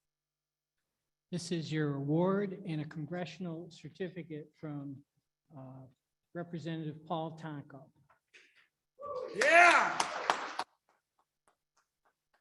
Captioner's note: audience applaudes